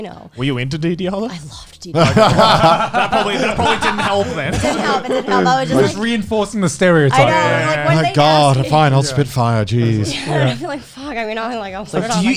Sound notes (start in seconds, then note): 2.7 all laughing